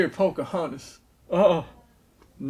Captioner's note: groans